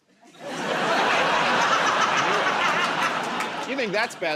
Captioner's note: laughter